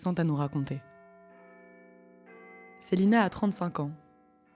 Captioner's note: clock tower bells ringing